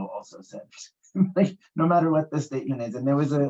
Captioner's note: laughs